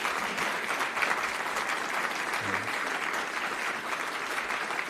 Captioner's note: applause